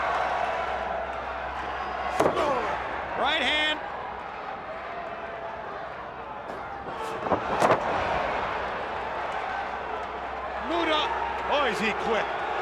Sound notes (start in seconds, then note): 4.9 crowd cheering